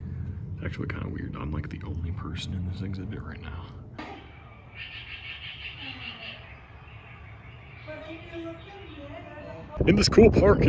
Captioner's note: fake nature noises